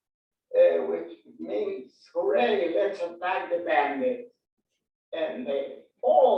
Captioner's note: foreign language 01:22:42